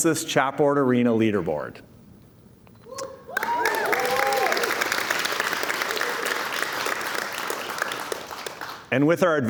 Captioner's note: cheers and Applause